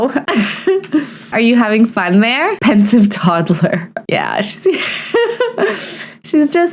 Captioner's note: laughs